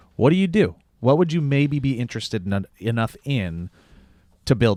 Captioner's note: none